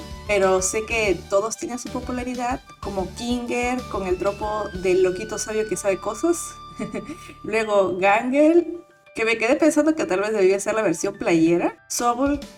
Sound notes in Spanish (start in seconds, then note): 6.8 risas